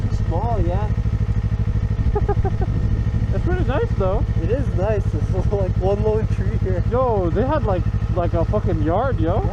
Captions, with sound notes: "Too small, yeah" *laughs* "It's pretty nice though" "It is nice, *chuckles* there's like one lone tree here" "Yo they had like, like a f** kin' yard, yo"